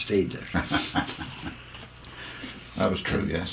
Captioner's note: laugh